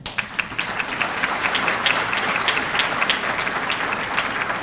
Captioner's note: audience clapping